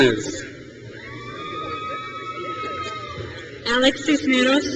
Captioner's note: crowd cheers